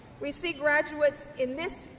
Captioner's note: none